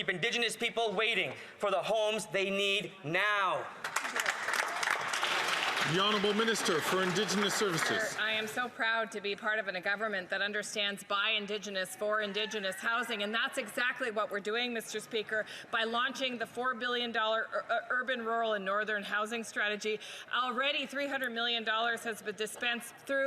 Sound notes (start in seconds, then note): 8.8 some Applause